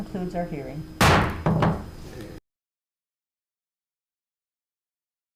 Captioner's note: gavel pounding